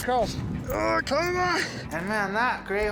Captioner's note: grunting